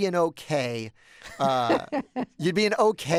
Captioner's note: laughter